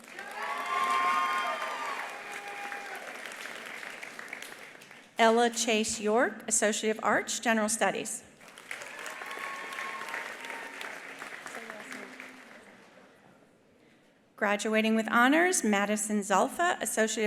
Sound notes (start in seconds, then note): 0.0 attendees cheering; 0.0 attendees applauding; 8.4 attendees applauding; 8.7 attendees cheering